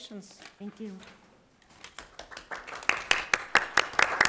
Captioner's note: clapping